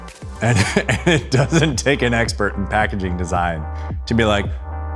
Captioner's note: chuckles